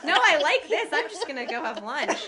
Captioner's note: laughter